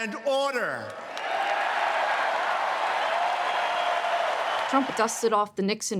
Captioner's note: audience cheers and applauds